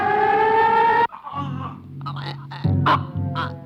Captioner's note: gasping